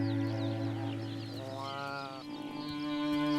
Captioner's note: bleating